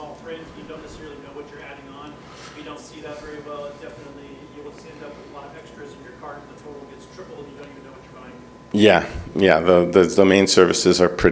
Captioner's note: speaking off microphone